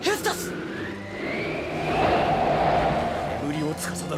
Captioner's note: SFX: winds